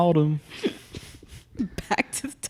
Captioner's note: both laugh